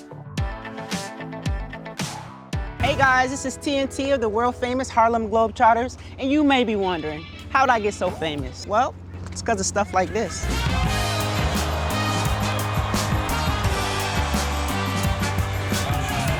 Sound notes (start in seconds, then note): 10.2 upbeat music; 10.4 audience cheering